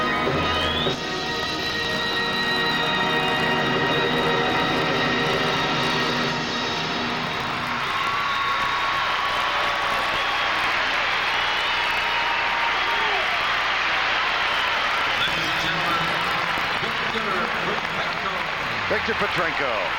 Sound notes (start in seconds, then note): 10.2 cheers and applause